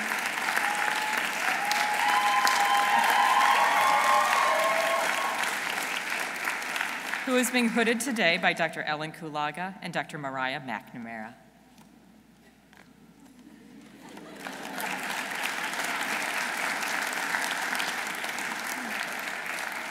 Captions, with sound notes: Who is being hooded today by Dr. Ellen Kulaga and Dr. Mariah McNamara. (audience applauding)